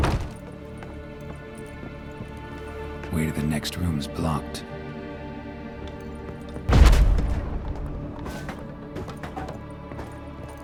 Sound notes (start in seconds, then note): 6.7 Aard booms; 8.2 debris clatters